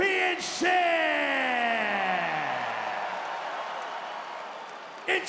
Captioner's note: crowd cheering